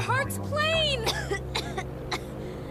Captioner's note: coughs